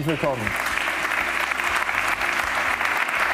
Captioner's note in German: Applaus